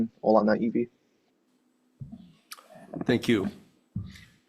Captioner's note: speaking in foreign language